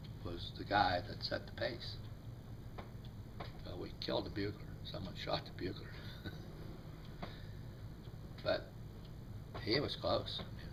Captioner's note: chuckles